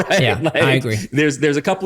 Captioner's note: laughs